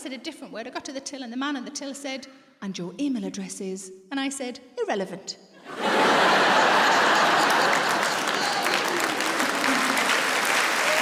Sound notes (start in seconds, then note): 5.6 audience laughs; 7.9 audience applauds